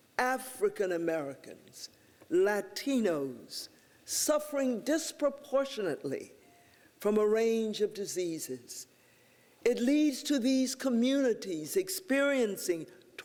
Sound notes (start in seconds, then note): none